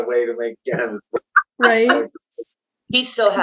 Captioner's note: laughs